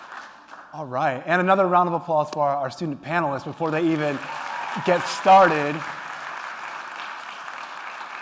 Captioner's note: applause